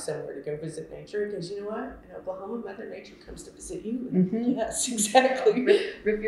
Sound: laughter

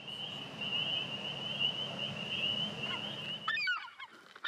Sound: sounds of crickets, frogs, and seagulls

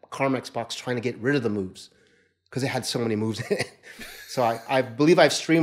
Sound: laughing

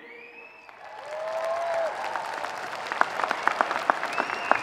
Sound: audience cheering

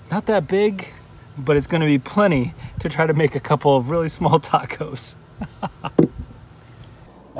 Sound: chuckle

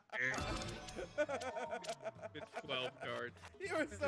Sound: laugh

